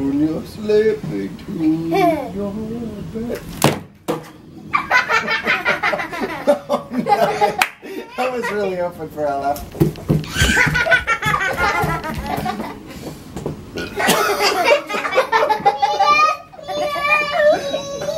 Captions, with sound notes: Oh! I was really hoping for a laugh. (belch) (laughing)